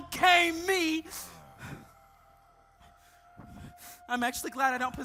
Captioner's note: group grunting